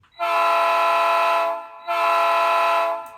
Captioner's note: horn sounds